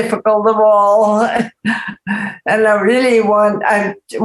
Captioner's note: chuckles